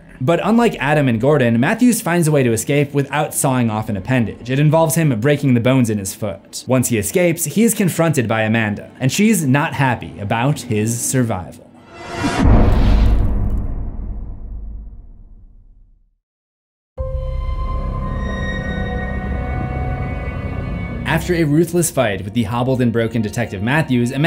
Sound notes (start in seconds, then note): 11.8 impact